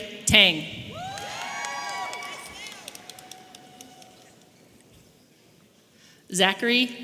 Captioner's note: audience applauding and cheering